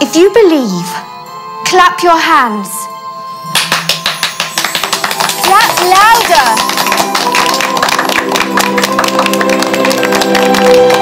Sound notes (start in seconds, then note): 0.0 suspenseful music; 3.5 kids clap; 7.4 intense music